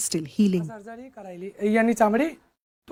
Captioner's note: speaking Gujarati